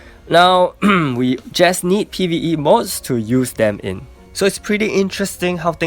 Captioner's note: cough